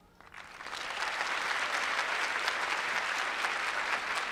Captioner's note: applause